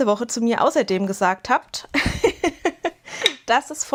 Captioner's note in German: Gelächter